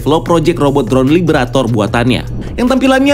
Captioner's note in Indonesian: suara transisi